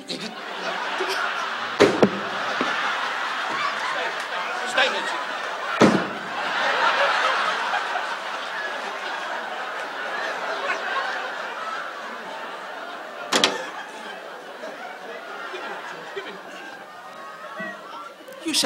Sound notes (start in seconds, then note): 1.2 audience laughs; 1.8 object clatters; 3.6 audience laughs; 5.2 Don muttering; 6.1 object clatters; 7.3 audience laughs; 13.7 object clatters; 15.9 Don muttering